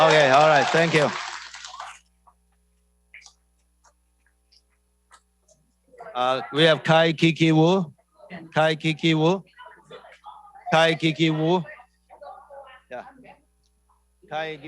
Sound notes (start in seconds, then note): 3.6 speaking non-english